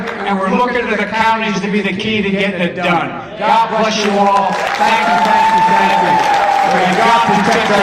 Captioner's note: applause